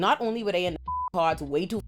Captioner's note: beep